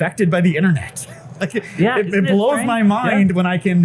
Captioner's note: laughs